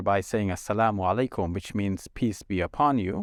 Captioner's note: speaking Arabic